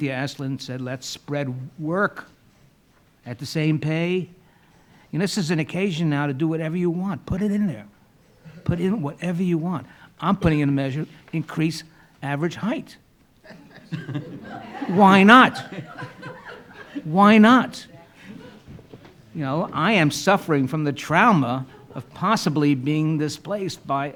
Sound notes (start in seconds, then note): 13.4 laughing